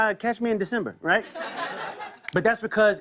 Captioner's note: laughter